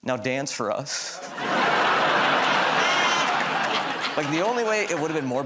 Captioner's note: laughter